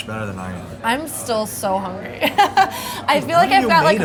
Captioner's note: laughs